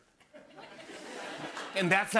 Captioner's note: laughter